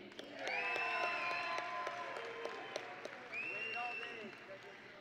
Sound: audience and graduates cheering

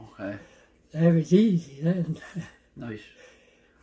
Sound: laughs

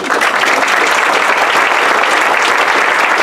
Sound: applause

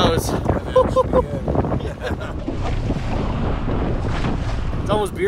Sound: laughs

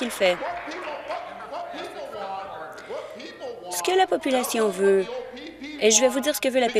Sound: applause

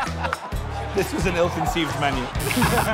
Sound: buzzer

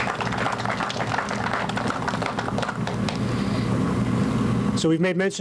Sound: applause

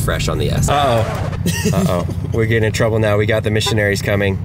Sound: laughing

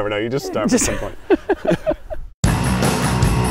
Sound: laughing; upbeat music

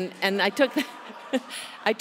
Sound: laughter

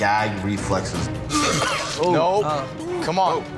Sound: gagging

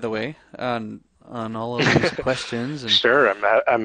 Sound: laughs

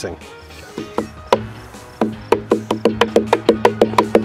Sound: slapping noises

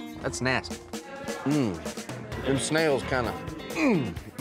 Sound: grunts

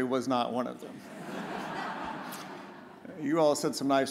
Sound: audience laughs

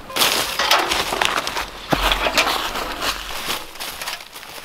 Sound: bucket clattering

